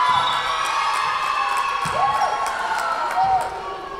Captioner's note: Tigers cheering; whistle blowing